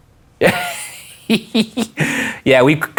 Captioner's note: laughing